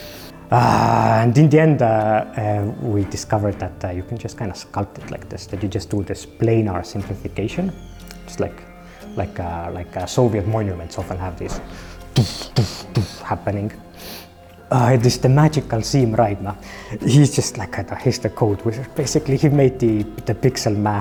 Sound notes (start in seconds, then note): 11.8 booming sounds